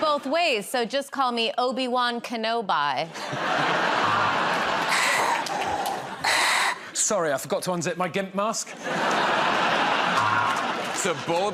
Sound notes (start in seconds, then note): 3.1 laughter; 4.9 breathes heavily; 8.7 laughter